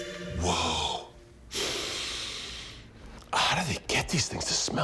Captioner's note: John Cena sniffs